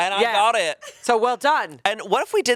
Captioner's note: chuckling